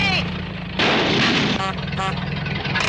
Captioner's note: car backfires; horn honks